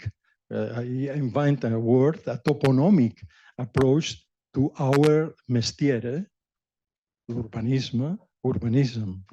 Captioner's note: non-english